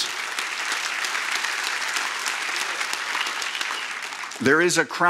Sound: applause

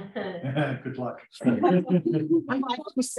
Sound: laughter

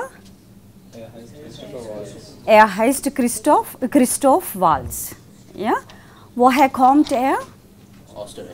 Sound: buzz

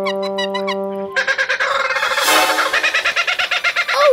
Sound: squawking

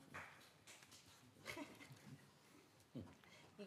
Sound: applause

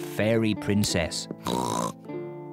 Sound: oinks

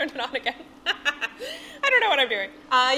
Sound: laughing

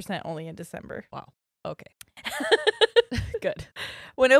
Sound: laughs

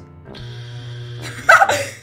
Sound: buzzer

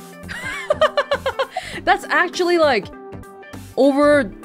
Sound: chuckles

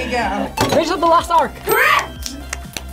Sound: bell dings

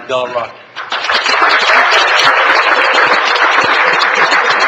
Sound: all applauding

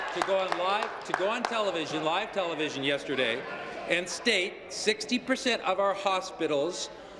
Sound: applause

